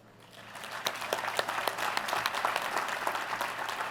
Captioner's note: applause